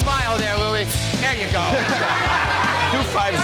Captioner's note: laughter